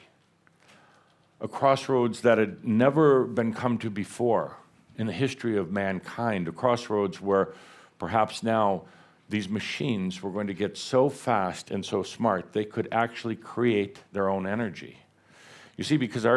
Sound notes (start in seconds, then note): none